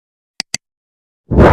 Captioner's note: clicking